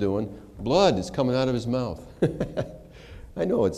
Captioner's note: laughter